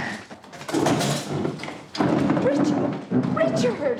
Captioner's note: inhales